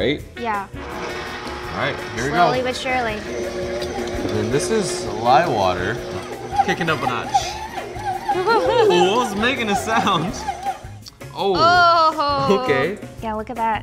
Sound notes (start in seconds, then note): 7.5 mixer whirring; 8.3 laughter